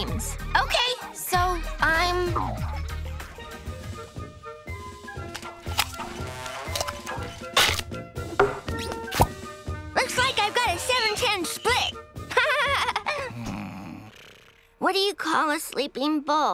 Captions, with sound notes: Okay. So I'm... Looks like I've got a 7/10 split. [laughing] [snoring] What do you call a sleeping bull?